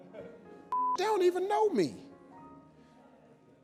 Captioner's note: beep